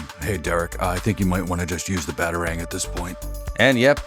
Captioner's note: Deep Batman voice